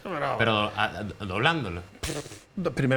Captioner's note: snorts